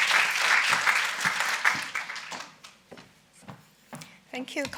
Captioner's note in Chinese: 鼓掌